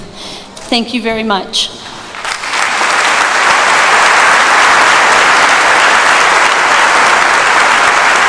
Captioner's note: applause